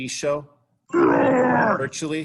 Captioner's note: loud growling